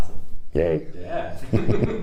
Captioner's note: giggles